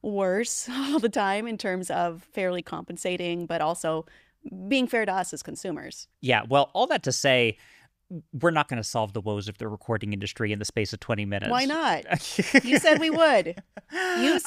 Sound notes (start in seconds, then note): 12.1 laughing